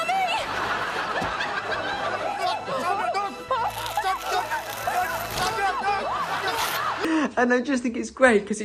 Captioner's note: laughs and screams